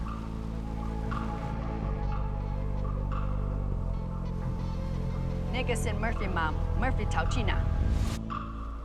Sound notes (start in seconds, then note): 4.7 speaking mandarin